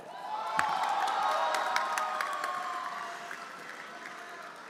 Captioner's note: everyone applauding